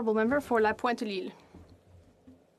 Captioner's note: speaking French